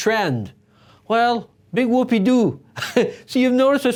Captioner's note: chuckles